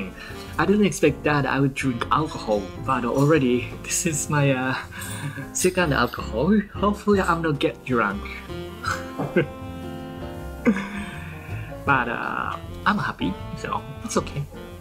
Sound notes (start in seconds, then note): 8.8 laugh